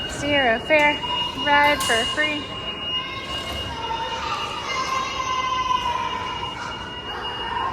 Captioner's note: loud beeping sounds